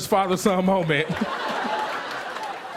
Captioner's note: laughter